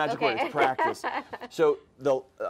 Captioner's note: laughs